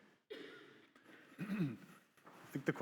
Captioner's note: attendee coughing; clears throat